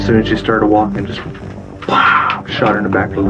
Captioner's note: imitates gunshot